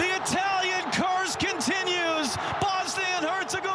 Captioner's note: applause